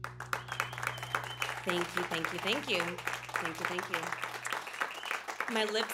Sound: applause

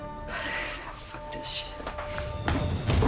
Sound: sighs; dramatic music

